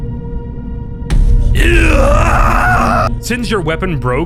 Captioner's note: A calm, mildly distressed vocalization